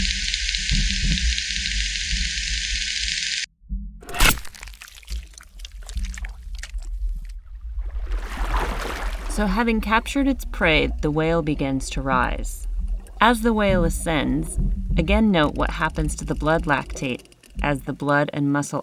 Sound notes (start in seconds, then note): 0.0 whale Clicking sounds; 4.6 eating sounds